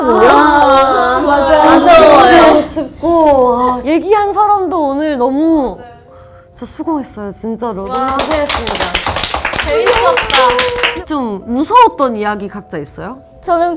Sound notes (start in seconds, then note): 7.8 applause for our efforts